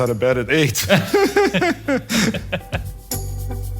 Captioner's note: laugh